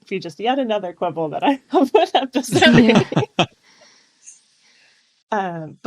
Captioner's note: laughter